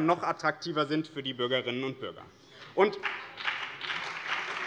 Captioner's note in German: Beifall BÜNDNIS 90/DIE GRÜNEN und CDU